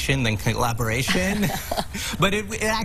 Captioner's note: laughter